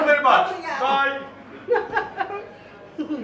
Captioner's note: laughs